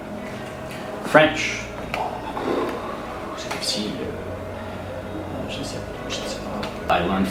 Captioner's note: sigh